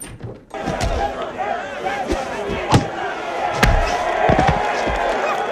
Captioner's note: crowd cheering